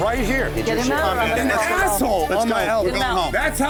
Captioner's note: chatter